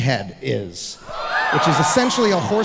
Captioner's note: audience exclaiming loudly